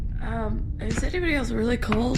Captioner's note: slurring